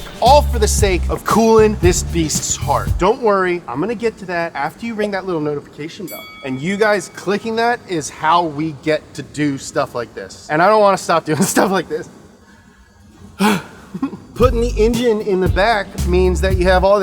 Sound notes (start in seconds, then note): 6.0 bell chimes; 12.3 exhales deeply